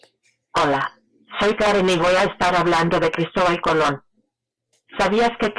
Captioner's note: robot speaking in Spanish